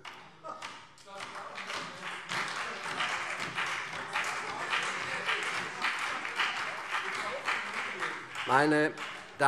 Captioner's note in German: Beifall CDU, BÜNDNIS 90/DIE GRÜNEN und SPD - Zurufe AfD